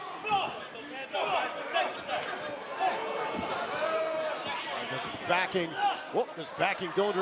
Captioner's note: crowd chatter